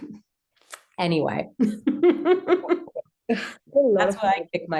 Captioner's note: laughs